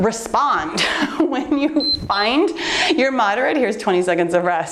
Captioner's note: timer beeps